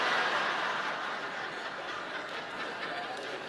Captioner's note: laughter